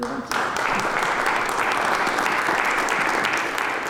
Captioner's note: applause